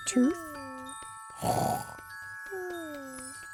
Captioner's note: snoring